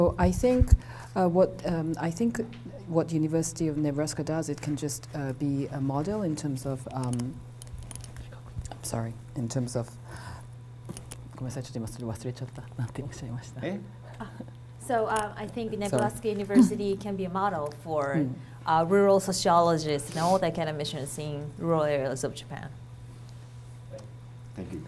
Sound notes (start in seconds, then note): 7.6 speaking foreign language